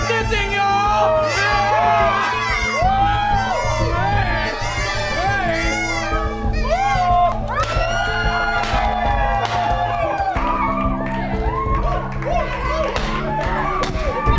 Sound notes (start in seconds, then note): 3.8 cheering